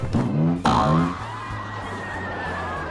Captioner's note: boing boing; riders screaming